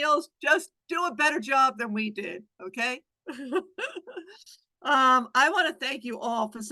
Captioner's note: laughs